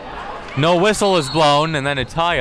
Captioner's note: whistle blows